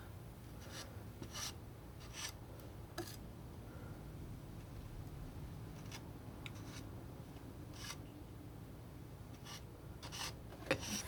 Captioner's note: scratching